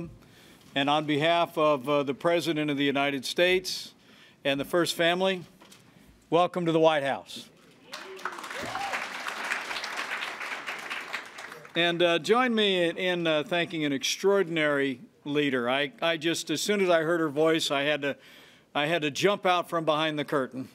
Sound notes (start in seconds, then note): 7.8 applause